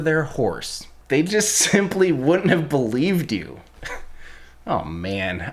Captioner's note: chuckles